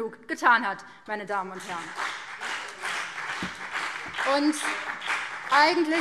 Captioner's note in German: Beifall BÜNDNIS 90/DIE GRÜNEN